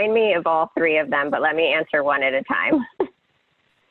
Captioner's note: laughs